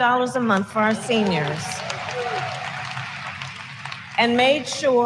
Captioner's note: applause